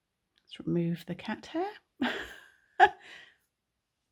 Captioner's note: chuckles